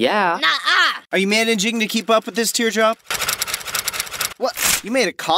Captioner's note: typing sounds